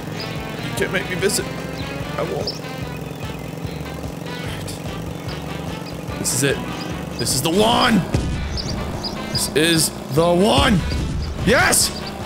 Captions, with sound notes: you can't make me visit I won't (quietly) alright this is it this is the one! this is the one! yes!